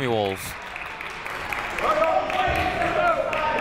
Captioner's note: crowd clapping; people shouting in the crowd